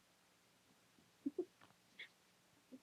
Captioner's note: quiet laughter